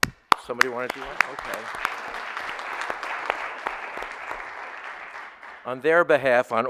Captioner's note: audience applauding